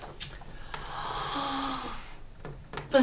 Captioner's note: gasps